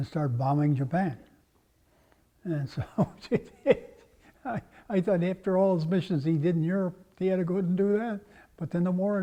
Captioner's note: laugh